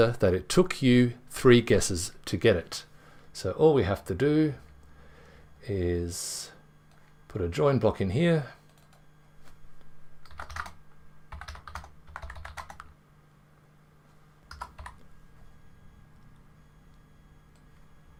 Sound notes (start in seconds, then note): 11.3 keyboard typing